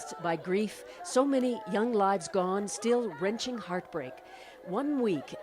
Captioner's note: chanting